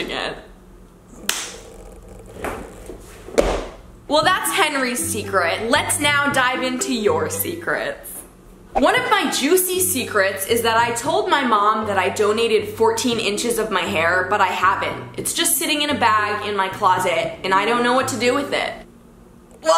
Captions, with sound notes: (clapping) (banging) Well, that's Henry's secret. Let's now dive into your secrets. One of my juicy secrets is that I told my mom that I donated 14 inches of my hair, but I haven't. It's just sitting in a bag in my closet, and I don't know what to do with it.